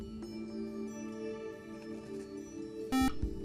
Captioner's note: buzzer